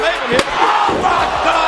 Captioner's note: chair shot connecting